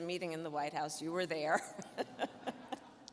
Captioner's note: chuckling